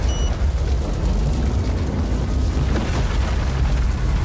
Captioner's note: card machine beeps